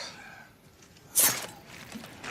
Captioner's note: knife slicing